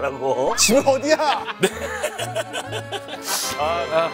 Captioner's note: dying from laughter